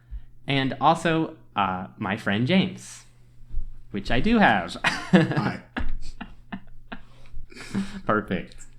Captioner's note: laughs